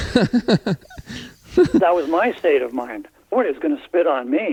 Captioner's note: laughter